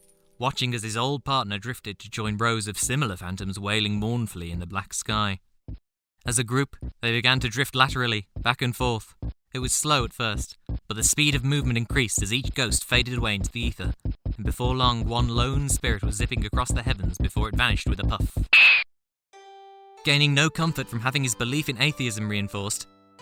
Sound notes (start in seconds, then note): 6.1 Space Invader noises; 11.9 Space Invader noises speed up; 14.0 really quick Space Invader noises; 18.5 Space Invaders explosion